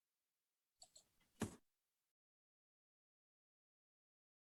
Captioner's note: mouse clicking